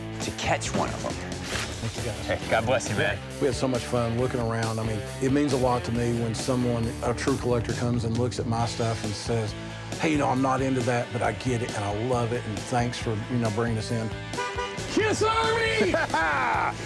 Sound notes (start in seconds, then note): 14.2 horn honk